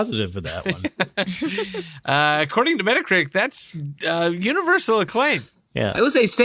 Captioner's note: laughter